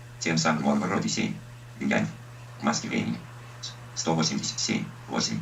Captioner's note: speech synthesizer voices page numbers and footnotes